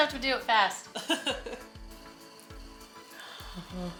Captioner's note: laughing